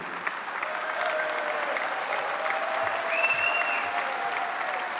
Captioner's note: applause